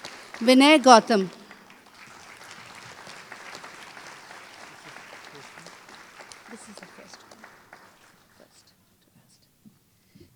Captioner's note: applause